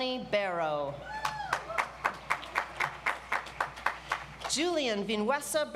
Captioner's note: audience applauds